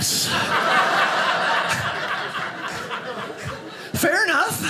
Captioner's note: audience laughing